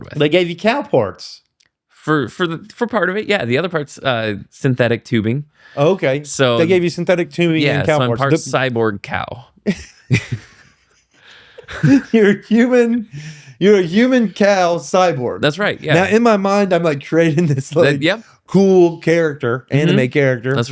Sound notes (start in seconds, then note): 9.6 laughter